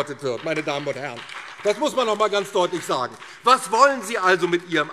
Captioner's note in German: Beifall